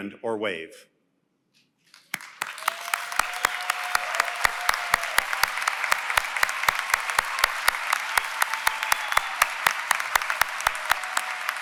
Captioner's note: applause